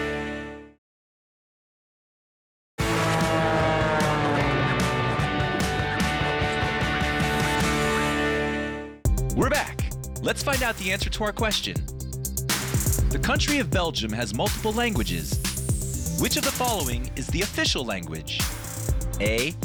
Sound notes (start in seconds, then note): 2.8 engine whirring; 5.2 upbeat music